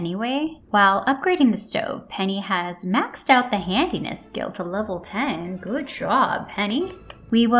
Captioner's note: polite clapping